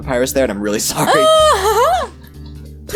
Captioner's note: happy noise